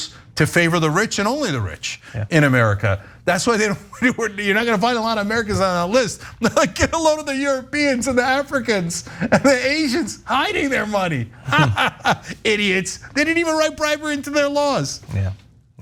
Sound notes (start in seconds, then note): 6.8 laugh; 11.4 laugh